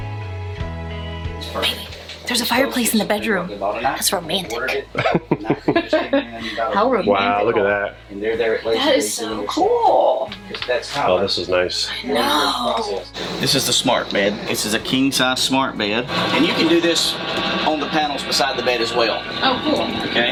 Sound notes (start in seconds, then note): 0.1 soft music; 4.9 laughter